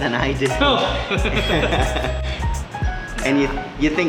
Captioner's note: laughing